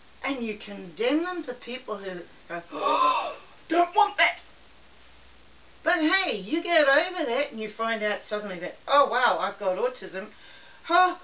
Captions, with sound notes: And you condemn them? The people who are.... [Big deep breath] "Don't want that!" But hey! You get over that and you find out that suddenly that. Oh Wow! I've got Autism!!! Arrh